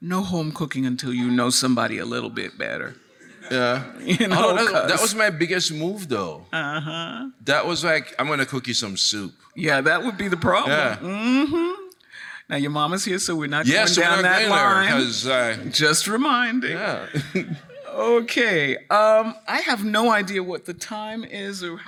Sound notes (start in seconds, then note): 16.8 chuckles